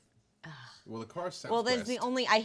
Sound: sighing

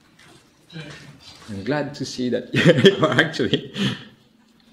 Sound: laughs

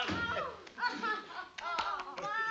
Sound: laughter

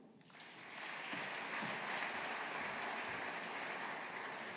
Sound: audience applauding

